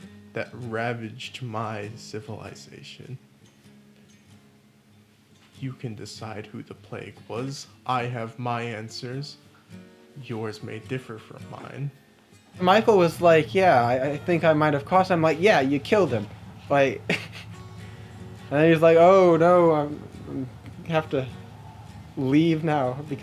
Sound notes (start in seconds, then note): 17.2 chuckles